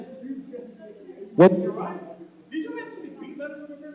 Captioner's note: shouting